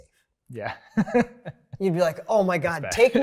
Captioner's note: laughs